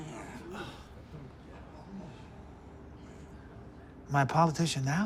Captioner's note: firefighters murmuring